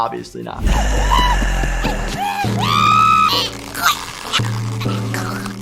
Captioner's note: Flaky/Flippy yelling and gurgling